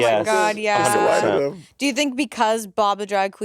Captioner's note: Monét faintly speaking